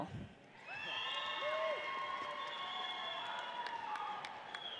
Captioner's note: audience cheers